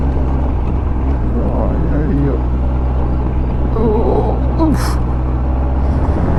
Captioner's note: old man moans and groans